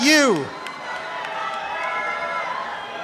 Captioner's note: cheering and applause